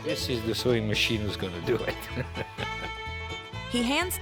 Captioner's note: chuckling